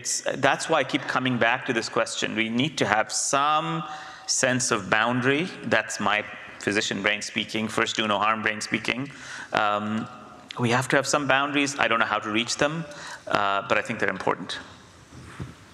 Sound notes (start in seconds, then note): none